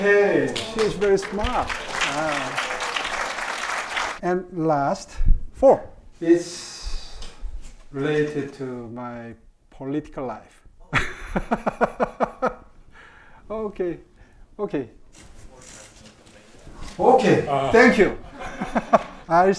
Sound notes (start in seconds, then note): 0.0 audience applauding; 10.3 laughs; 17.2 laughs